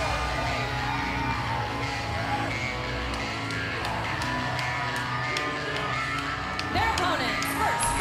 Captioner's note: cheers & applause